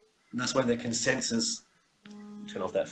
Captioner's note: phone buzzes